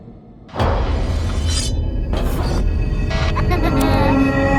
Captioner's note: blades slicing; creepy laughing